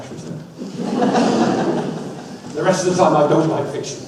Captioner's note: audience laughs